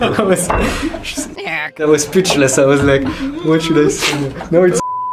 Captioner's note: beep